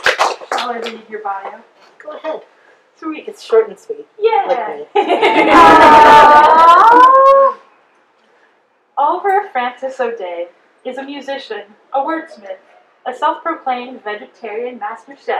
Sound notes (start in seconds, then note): 4.9 audience laughter and awws